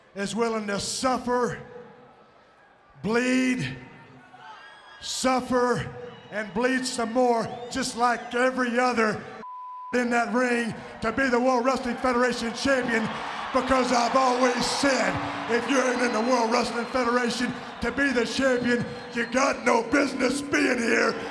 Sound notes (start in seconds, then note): 9.4 beep